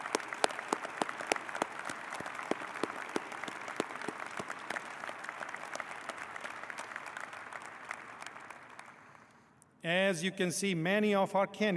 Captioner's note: applause